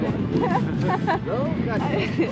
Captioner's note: wind blowing; woman chuckling